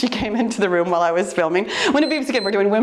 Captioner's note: timer beeps